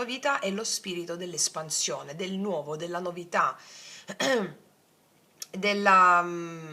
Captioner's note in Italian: schiarire la voce